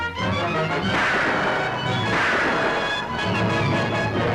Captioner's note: gun firing